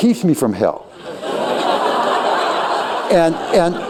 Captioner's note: laughter